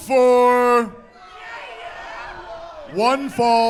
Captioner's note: indistinct crowd chattering